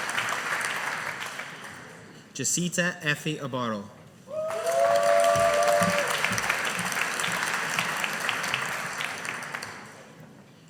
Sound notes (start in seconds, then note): 4.4 audience applauding